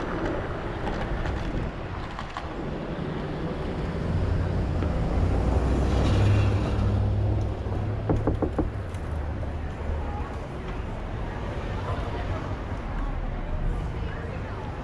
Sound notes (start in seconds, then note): 8.0 knock knock knock knock